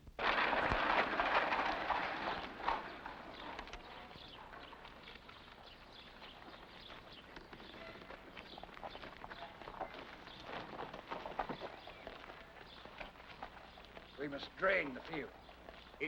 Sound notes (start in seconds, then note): 0.1 carriage clatters; 2.0 birds chirping